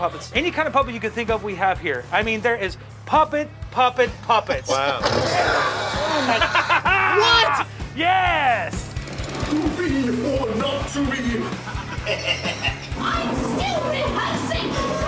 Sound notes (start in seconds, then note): 5.1 scream; 11.2 evil laugh